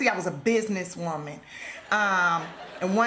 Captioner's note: laughter